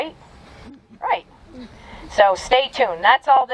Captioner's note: audience chuckling